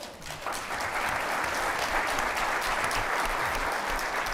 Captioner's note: applause